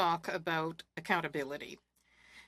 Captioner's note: speaking French